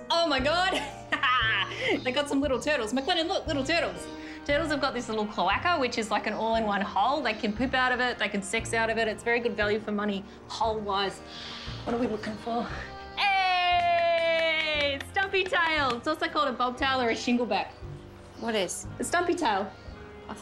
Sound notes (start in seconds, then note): 13.7 clapping